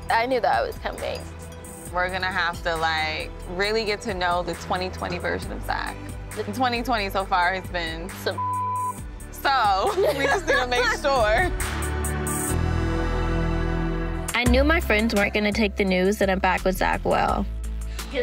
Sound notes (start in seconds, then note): 8.3 beep; 12.5 laughs